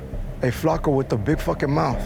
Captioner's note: speaks Spanish